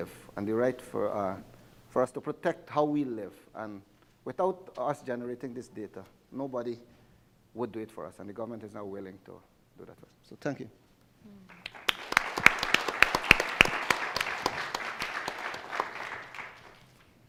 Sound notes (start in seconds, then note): 11.5 audience applauding